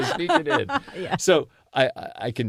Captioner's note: laugh